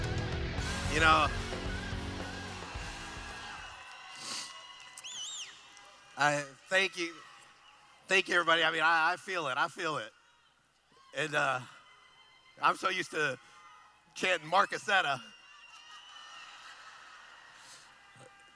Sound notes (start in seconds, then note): 1.7 cheering; 15.6 laughing